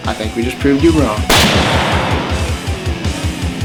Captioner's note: gunshot